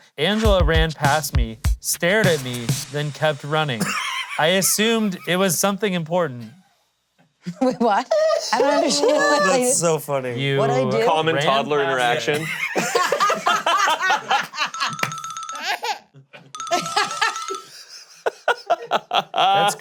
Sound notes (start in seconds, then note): 3.7 laughing; 13.4 all laughing; 16.7 laughter continues